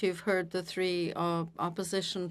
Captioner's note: speaking FRENCH